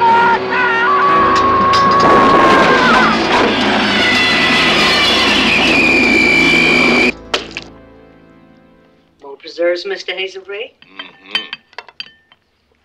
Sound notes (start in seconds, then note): 0.0 Harless screaming; 2.6 trimmer whirring